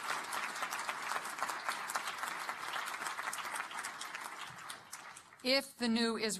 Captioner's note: applause